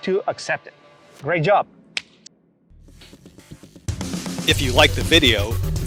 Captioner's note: palms smack